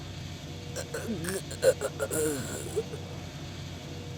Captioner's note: pained groans